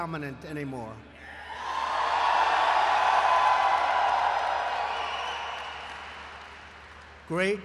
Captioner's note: applause